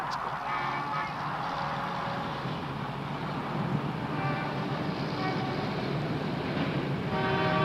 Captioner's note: horns honking & City Noise